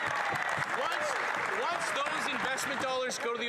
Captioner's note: cheers & Applause